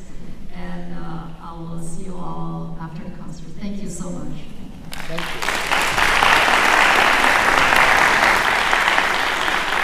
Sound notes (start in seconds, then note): 4.9 applause